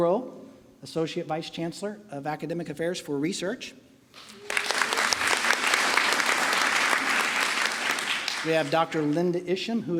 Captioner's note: applause